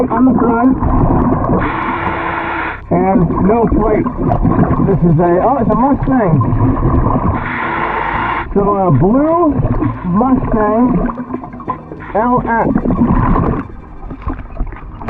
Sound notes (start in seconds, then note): 2.2 air wheezing; 7.4 air wheezing